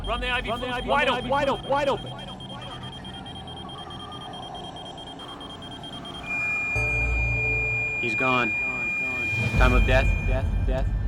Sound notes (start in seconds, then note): 2.1 machine beeping erratically; 6.4 machine flatlines